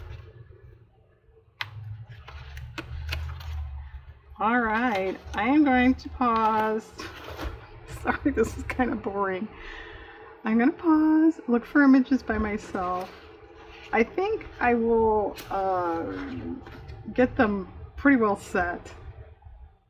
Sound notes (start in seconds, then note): 7.0 laughs